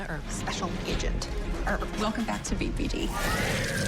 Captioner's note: creature growling